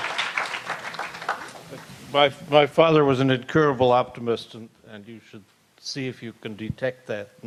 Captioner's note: applause